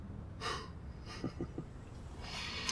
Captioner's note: laughs